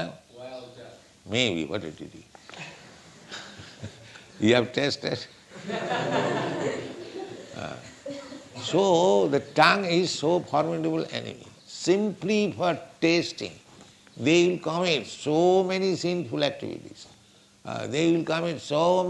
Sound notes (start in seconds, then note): 5.5 laughter